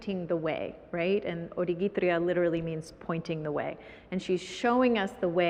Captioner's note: foreign language